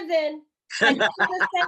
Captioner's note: laughter